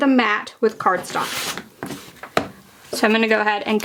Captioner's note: paper rustling